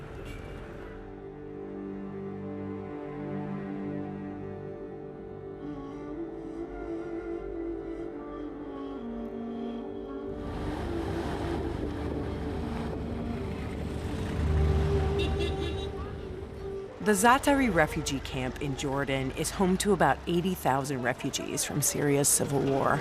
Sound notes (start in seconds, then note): 10.3 wind howling; 15.0 car horn honking